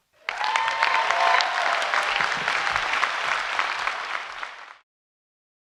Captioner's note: audience applauding and cheering